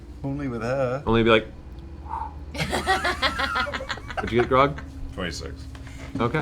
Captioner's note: whoosh